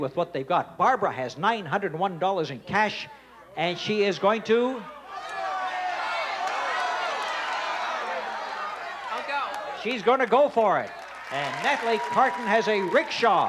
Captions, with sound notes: Barbara has $901 in cash and she is going to... (audience shouting) -I'll go. -She's gonna go for it. And Natalie Carton has a rickshaw.